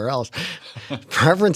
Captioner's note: laughter